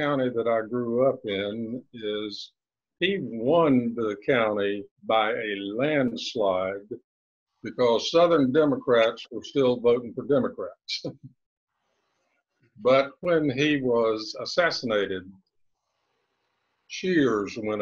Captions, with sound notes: that I grew up is, he won the county by a landslide because Southern Democrats were still voting for Democrats. (chuckles) But when he was assassinated, cheers went up